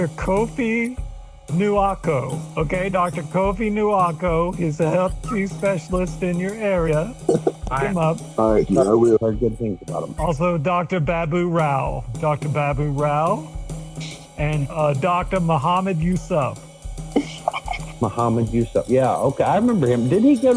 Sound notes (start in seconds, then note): 5.5 laughs